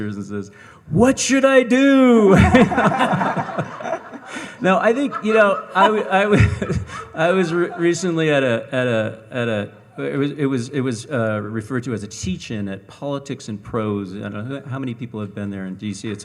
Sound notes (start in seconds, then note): 2.3 all laughing; 6.7 laughs